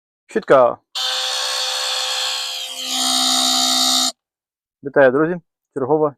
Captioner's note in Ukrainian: жужжання